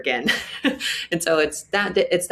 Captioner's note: chuckles